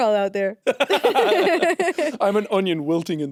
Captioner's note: Jacksepticeye and Courtney laughing